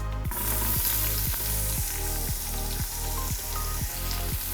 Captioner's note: onion sizzling